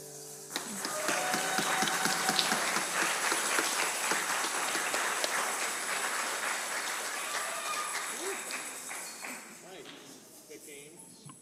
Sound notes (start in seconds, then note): 0.5 congregation applauding; 0.6 congregant cheers; 5.6 shakers rattling